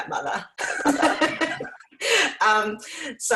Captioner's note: laughs